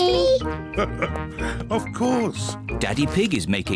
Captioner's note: laughs